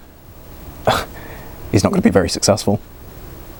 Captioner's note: scoffs